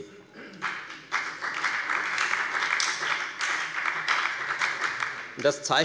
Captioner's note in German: Beifall bei der FDP und bei Abgeordneten der SPD